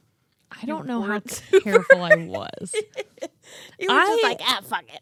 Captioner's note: laughs